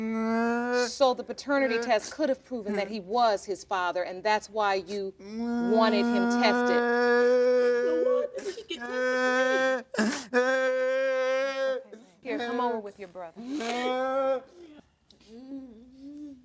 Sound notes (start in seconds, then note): 7.2 crying louder